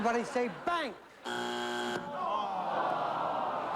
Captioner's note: buzzer